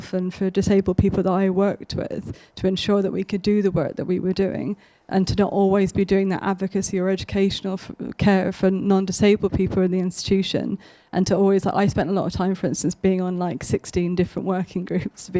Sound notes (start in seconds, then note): none